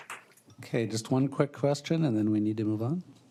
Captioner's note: applause